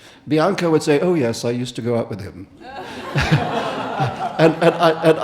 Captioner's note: audience laughing